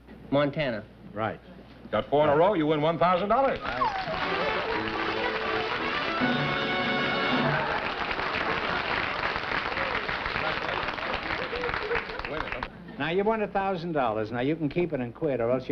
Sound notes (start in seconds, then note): 3.7 squeals; 6.2 applause